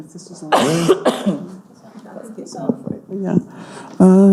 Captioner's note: coughs